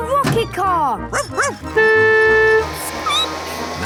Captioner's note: barking; squeaking; honking